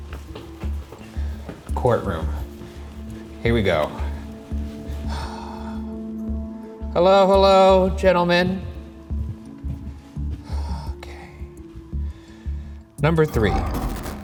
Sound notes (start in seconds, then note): 0.0 footsteps pattering; 4.8 exhales sharply